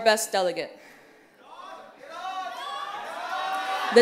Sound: cheers

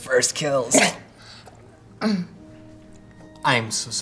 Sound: spits

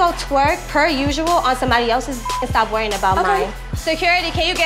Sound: beep

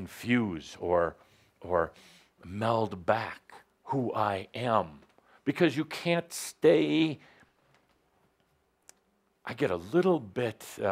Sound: speaking intensely

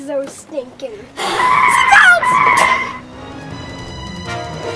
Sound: tires screeching

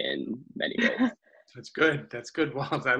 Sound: laughs

